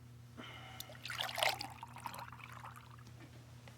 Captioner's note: pouring